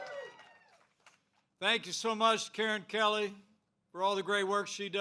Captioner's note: applause